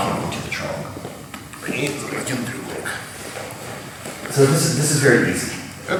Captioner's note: speaking in a foreign language